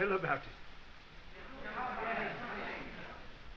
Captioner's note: students urging